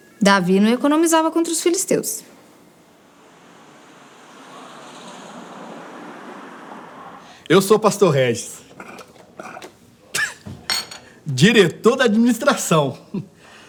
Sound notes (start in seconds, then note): 2.9 car passes; 8.7 laughs; 12.9 laugh